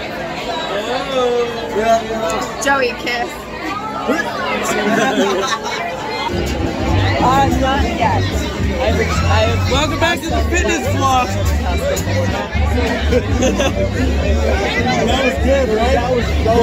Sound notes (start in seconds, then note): 4.0 gags; 4.7 laughs; 7.5 loud chatter and music